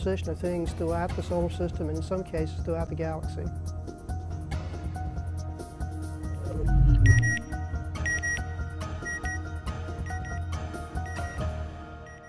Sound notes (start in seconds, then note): 6.4 bebeep... bebeep...bebeep